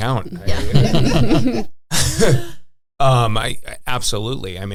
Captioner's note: all laughing